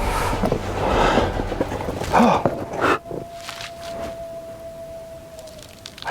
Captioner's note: labored breathing; distant howling